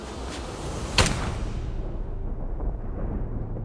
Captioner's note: gun firing; dramatic music